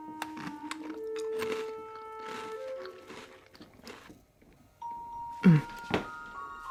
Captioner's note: cookie crunching